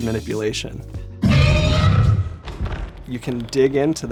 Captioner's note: creature sound